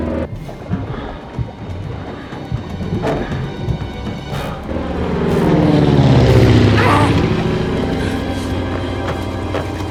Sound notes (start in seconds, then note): 0.3 labored breathing; 5.6 plane passes